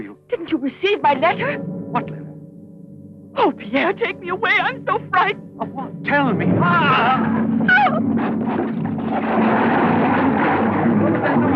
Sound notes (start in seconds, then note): 6.6 groans; 7.6 splashing; 8.1 clattering